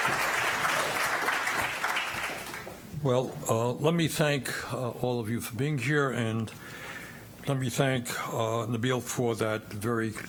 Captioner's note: applause